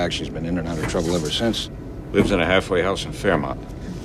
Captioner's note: none